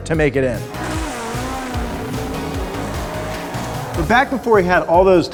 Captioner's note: engines racing